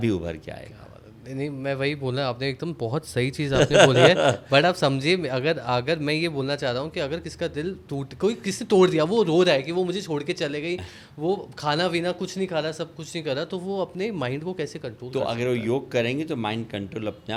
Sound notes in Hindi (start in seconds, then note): 3.5 हंसी